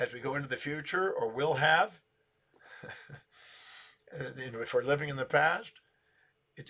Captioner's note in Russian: смеется